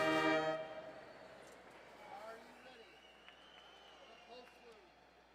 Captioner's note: quiet chatter